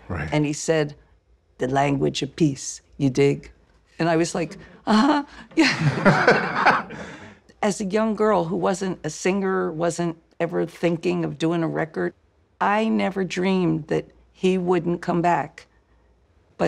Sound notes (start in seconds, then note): 4.3 laughing